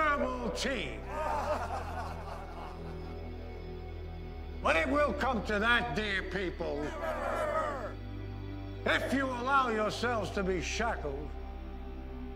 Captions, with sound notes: - [Crowd] (laughter) - But it will come to that, dear people. - [Crowd] No! If you allow yourselves to be shackled